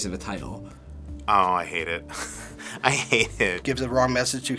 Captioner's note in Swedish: chuckles